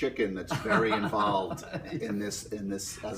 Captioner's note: laughing